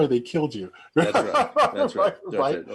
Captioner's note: chuckling